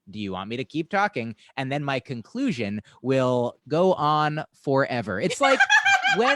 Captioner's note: laughter